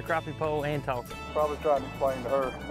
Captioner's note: men chattering